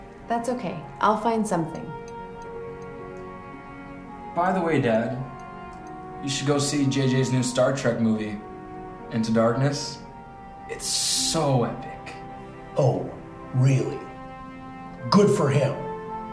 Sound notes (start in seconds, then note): none